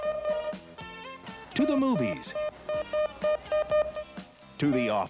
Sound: beeping; male Announcer over beeping

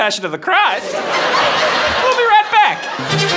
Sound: audience laughing; cheerful music

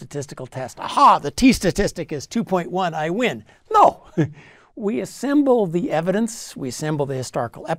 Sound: laugh

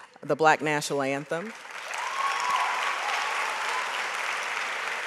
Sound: audience applauds

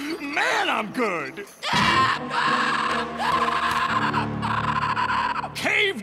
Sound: shrieking

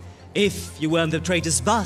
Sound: none

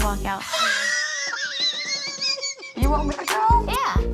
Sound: chuckles

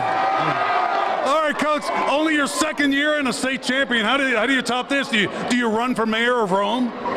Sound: cheers and applause

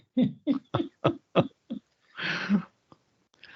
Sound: laughs

